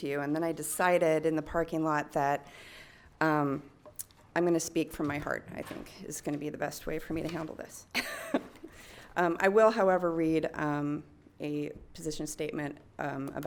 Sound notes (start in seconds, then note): 8.6 laughs